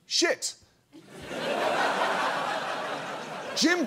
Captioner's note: audience laughs